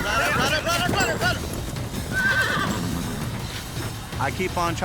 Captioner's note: hoofbeats, neighing